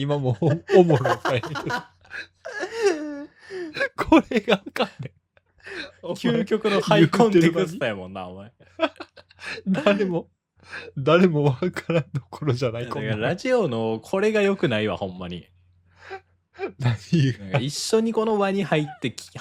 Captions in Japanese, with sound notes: [笑い] [息をのむ音] これがわかんね。 究極のハコテやもんな。お前 [笑い] 誰も誰もわからんところじゃない。こ ラジオのこれが良くないわ。 ほんまに何がなんか一緒にこの輪に入って話す感じがいいわけやんかラジオの距離感というか